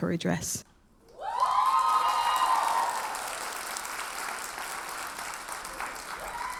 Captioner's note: audience cheers and applauds